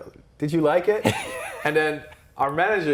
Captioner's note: laughing